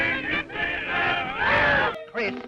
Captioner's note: singers scream